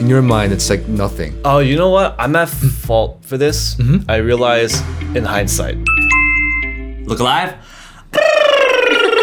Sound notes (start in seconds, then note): 5.8 doorbell ringing; 8.1 mouth trumpeting